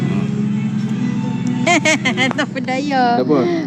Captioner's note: laughing